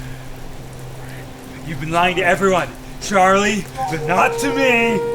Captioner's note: rain patters